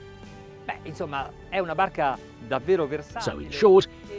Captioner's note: speaks in foreign language